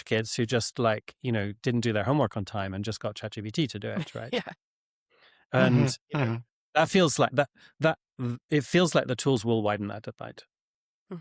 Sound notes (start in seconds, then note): 5.6 chuckles